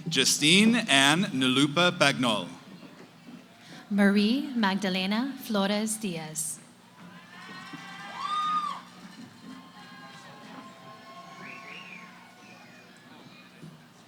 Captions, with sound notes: >> Jystine Anne Nalupa Bagnol. >> Marie Magdalena Flores Diaz. [ Cheering ]